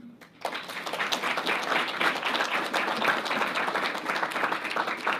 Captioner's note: audience applauding